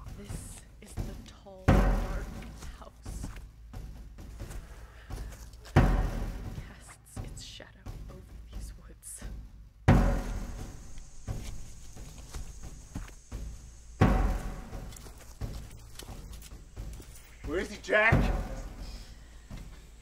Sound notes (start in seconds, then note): 14.4 stepping on broken glass